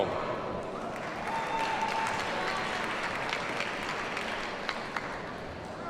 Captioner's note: audience cheers and applauds